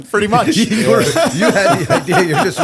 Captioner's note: laughter